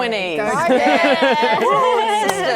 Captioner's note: cheering